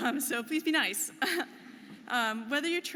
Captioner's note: none